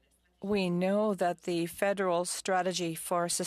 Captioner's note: speaking French